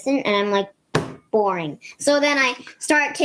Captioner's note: hand slams